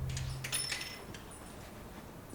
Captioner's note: bell chimes